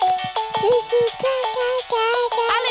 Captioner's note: mobile playing loud music; cooing